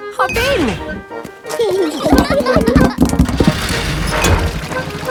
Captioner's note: children giggling